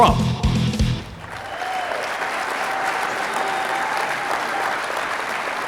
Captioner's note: audience applauding